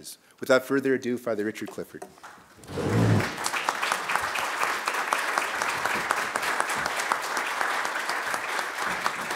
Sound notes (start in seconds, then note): 2.8 applause